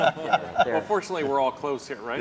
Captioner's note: laugh